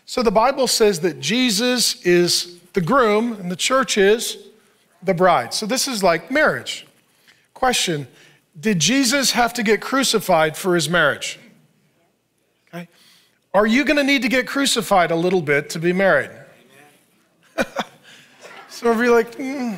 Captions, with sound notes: So the Bible says that Jesus is the groom and the church is? The bride. - The bride. - So this is like marriage. Question. Did Jesus have to get crucified for His marriage? Are you gonna need to get crucified a little bit to be married? (laughs) - Do we have to? (congregation laughing)